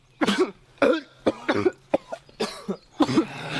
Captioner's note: coughing